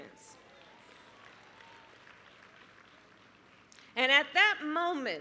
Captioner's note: applause